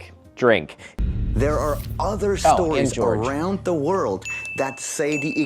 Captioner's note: ding x2